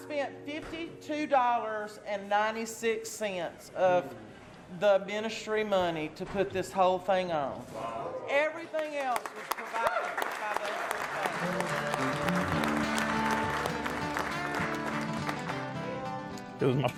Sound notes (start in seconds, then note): 12.0 applauding; 14.1 exciting music